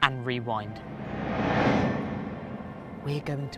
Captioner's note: wind whooshes